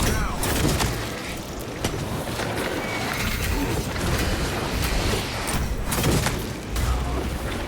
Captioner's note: gunfire